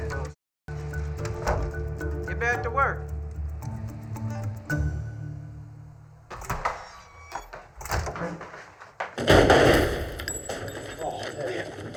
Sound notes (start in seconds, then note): 1.2 door closes; 6.2 door opens